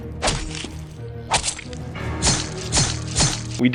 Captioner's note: intense music; slicing